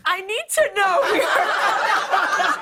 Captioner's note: laughter